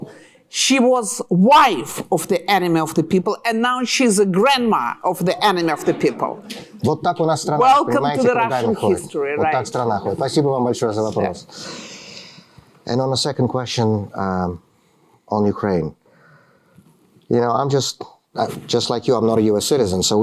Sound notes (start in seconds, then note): 9.0 speaking russian